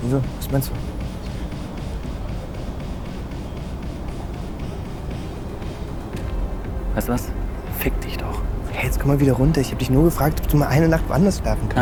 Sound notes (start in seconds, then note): 0.1 Jonas speaks in German; 7.0 Moritz speaks in German; 8.9 Jonas speaks in German